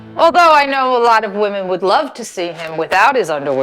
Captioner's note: none